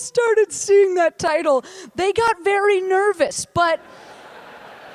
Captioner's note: laughter